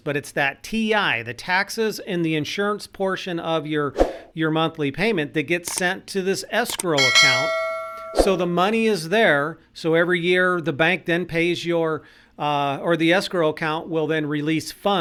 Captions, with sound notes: but it's that T-I, the taxes and the insurance portion of your monthly payment (whoosh) that gets sent (clicking) to this escrow account. (bell rings) So the money is there. (whoosh) So every year the escrow account will then release funds